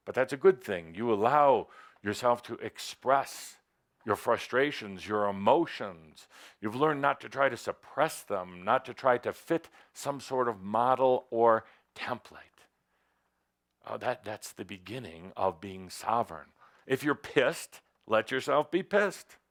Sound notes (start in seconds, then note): none